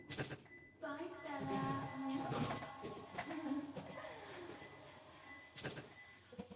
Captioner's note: sound effect; Jane makes kissing noise, giggles